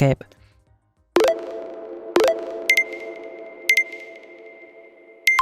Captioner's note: playful warbles